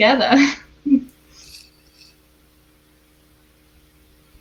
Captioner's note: chuckles